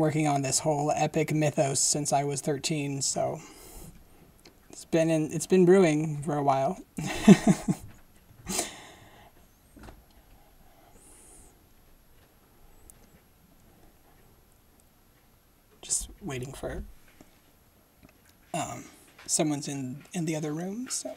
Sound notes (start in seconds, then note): 7.0 laughing